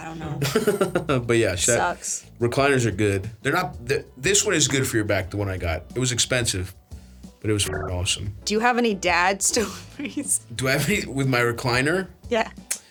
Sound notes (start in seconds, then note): 7.6 beeps